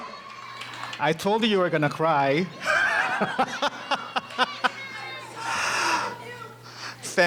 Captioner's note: laughing